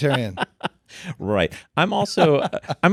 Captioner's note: laughing